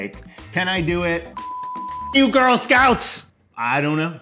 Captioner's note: beep